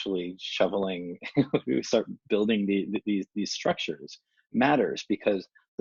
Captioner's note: chuckles